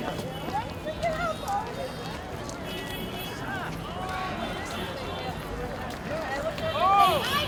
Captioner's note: crowd chattering; cheering